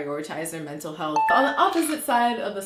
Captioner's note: beeping